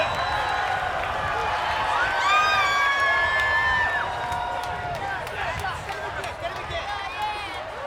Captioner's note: applause